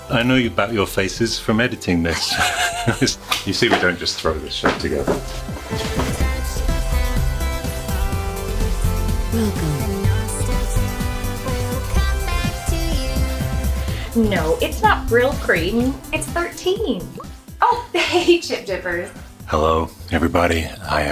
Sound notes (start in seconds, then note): 2.0 giggles